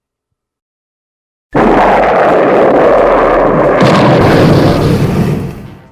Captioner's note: rocket burning